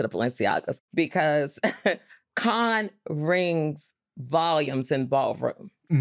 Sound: chuckles

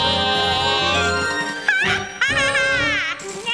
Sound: witch cackles

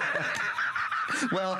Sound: laughter

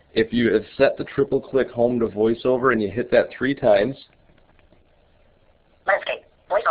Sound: iPad speech

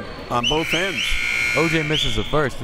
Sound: buzzer

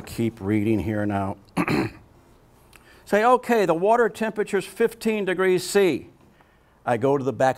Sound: clears throat

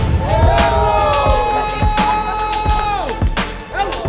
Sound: crowd screaming; upbeat music

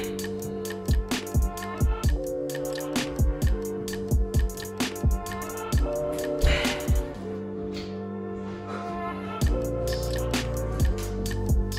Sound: exhales

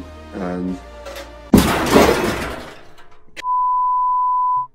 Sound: picture crashing; beep

